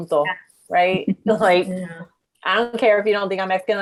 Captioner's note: woman laughing in background